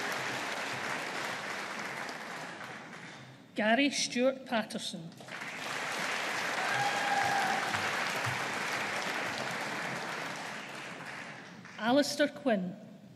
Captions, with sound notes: Garry Stewart Paterson. (AUDIENCE APPLAUDING) Allister Quinn.